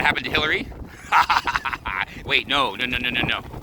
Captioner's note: laughing